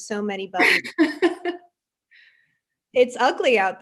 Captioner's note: laughs